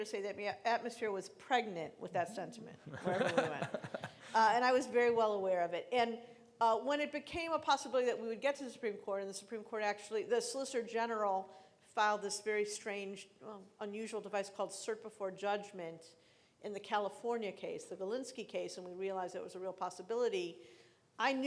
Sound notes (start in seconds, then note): 2.8 laughing